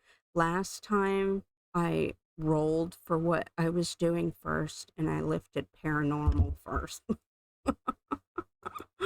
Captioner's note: laughing